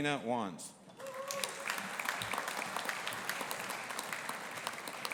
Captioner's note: audience applauding